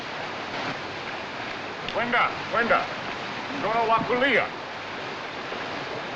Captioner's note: speaking African Language